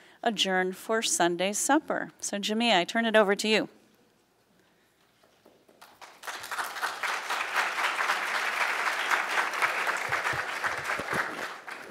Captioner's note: applauds